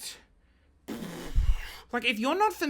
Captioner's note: blowing air